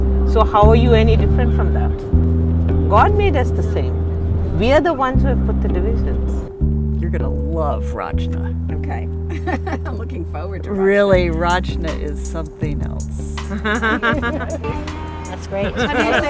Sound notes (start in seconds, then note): 9.7 laughs